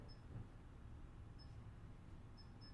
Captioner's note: beeping